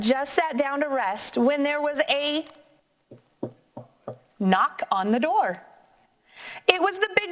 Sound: knocking

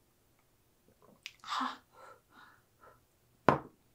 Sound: gasps in "burnt tongue"

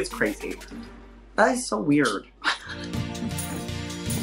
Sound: Gottmik laughs; upbeat music playing

